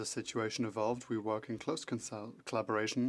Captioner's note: speaking French